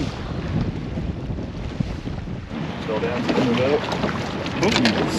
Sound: water lapping

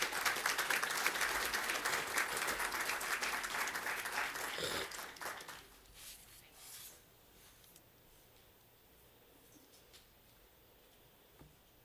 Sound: applause

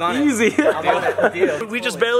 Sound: laughter

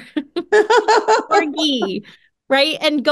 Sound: laughing

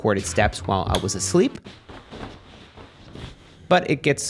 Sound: sheets rustling

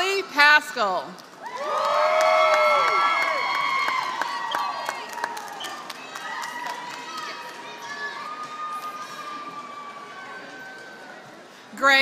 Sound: applause

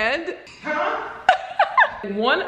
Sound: laughs

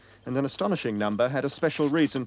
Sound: none

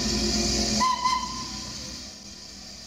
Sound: toot-toot

